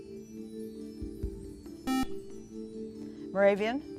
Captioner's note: beep